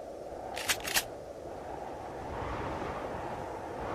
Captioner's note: rifle clicks; wind humming